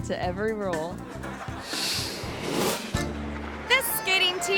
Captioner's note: audience laughs